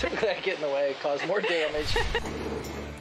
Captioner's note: laughs